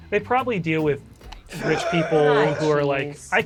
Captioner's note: gasps dramatically